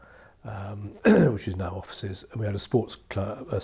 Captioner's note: clears throat